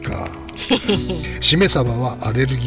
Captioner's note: laughs